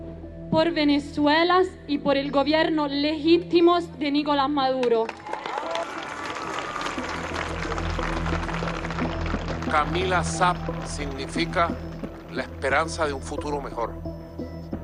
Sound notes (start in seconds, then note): 5.0 cheers and applause